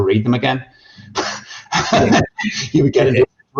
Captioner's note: laughter